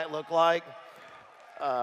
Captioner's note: applause